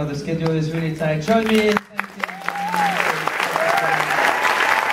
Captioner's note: applause